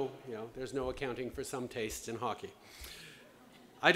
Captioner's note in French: none